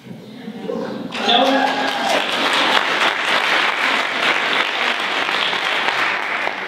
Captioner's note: applause